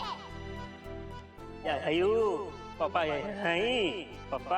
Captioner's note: Golu talking gibberish